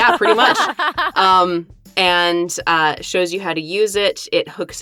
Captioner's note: EVERYONE laughs